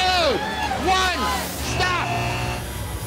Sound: buzzer

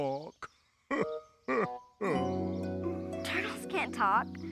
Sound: laughs

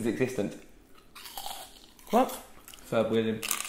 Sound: crunching

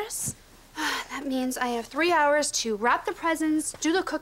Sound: sighs

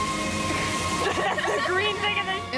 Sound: laughter

